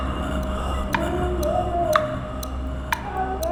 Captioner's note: clock ticking